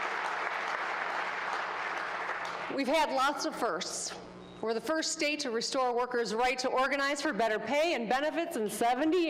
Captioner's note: applause